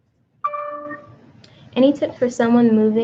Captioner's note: computer dings